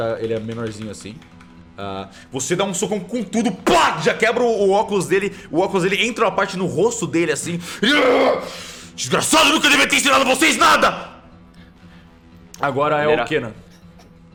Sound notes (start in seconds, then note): 7.9 hrrg; 11.0 screaming